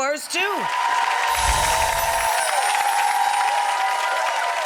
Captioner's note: crowd cheering